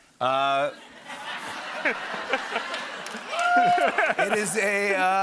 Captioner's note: laughter